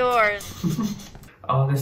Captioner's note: chuckles